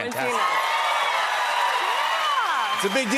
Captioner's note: cheers and applause